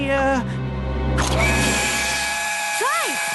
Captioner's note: whistle